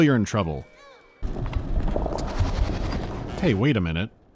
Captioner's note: low bubbling and skittering